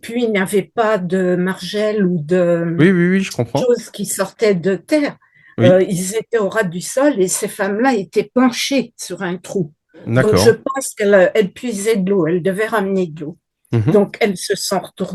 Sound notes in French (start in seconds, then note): 10.0 raclement de gorge